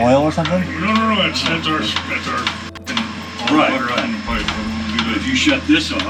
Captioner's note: beep